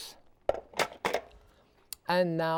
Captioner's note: bowl clattering